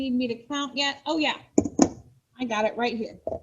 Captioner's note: thud